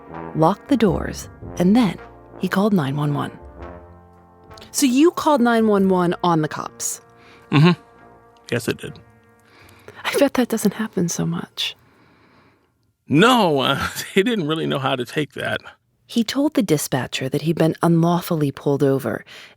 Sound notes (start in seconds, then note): 13.4 laughs